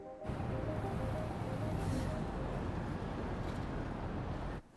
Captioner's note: traffic hums in distance